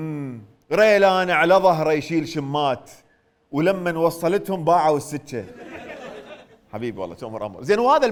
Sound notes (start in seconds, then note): 0.6 poetically